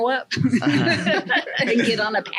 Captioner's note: laughing